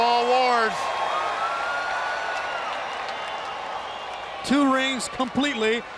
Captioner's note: crowd cheering